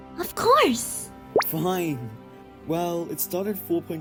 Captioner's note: none